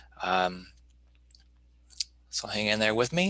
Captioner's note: clicking